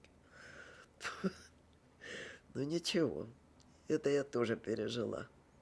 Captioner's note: laughing